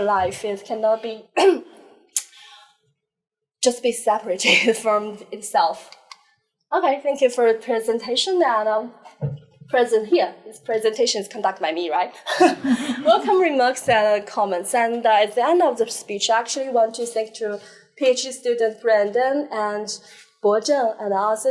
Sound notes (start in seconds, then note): 12.2 laughter